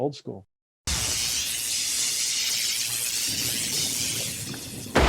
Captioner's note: electricity buzzing; explosion